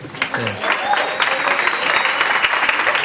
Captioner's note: applause